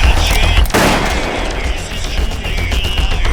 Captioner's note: gun firing